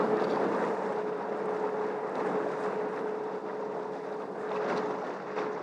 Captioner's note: noise of the ship navigating